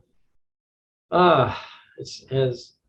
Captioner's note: gasping